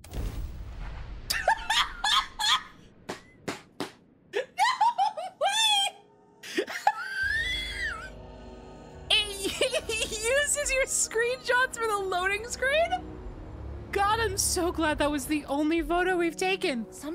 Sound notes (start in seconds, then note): 1.2 laughter; 6.4 laughter